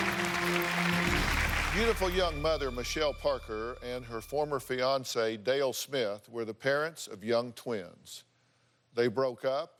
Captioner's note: applause